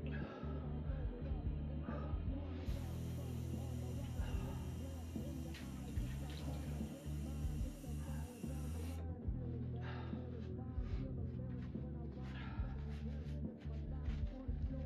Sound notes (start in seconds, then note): 0.2 narrator sighing; 2.7 faucet hissing; 9.1 narrator gasping over muffled rock music